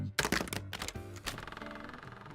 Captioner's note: creaaak